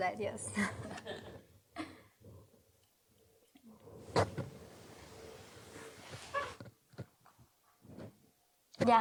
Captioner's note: chuckles